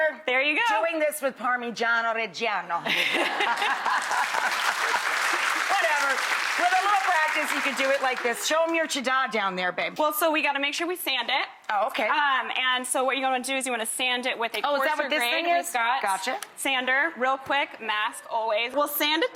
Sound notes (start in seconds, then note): 2.8 all laughing; 3.5 crowd clapping